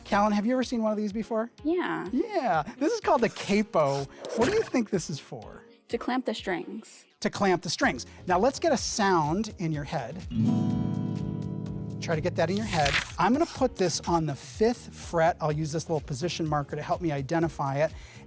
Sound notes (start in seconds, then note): 3.8 pencil scratching; 4.2 arrow twanging; 10.3 guitar playing